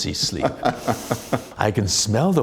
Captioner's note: laughter